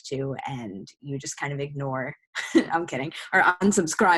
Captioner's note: laughs